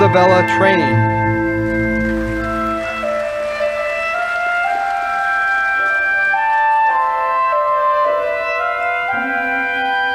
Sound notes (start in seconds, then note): 2.1 audience applauding